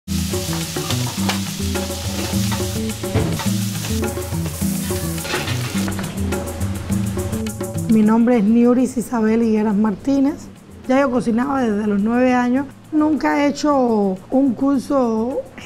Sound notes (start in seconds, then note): 7.9 speaking spanish